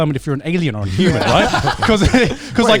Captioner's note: all laughing